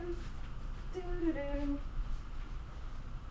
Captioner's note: humming